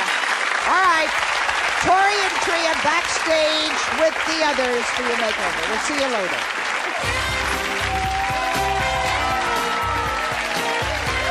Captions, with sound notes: Alright, Tory and Tria back stage with the others for your makeover. We'll see you later. (upbeat music) (audience cheering)